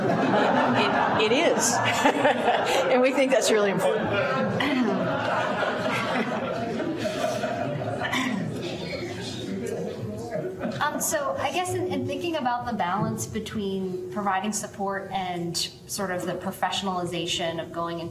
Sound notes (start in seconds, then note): 4.7 laughter